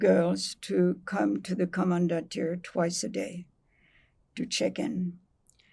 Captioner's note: german